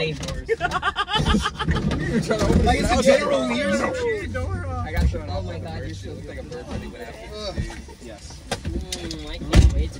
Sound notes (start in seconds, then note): 0.5 laughs; 2.0 chatter